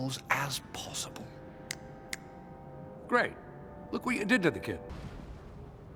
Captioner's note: PIERCE snaps his fingers